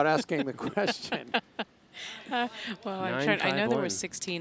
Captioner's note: laughing